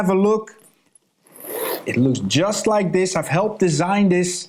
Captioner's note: zip whirring